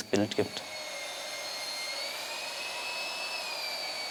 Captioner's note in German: Surren der Bürstmaschine